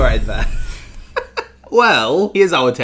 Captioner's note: laughing